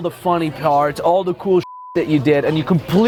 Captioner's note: beep